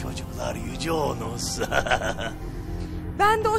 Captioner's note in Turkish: gülme sesi̇